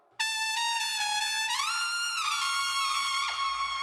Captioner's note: none